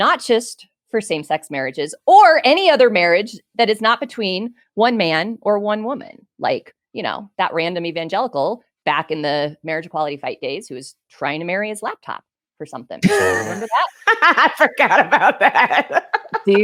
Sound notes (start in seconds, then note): 13.0 laughs; 16.0 laughing